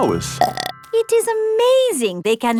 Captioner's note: burps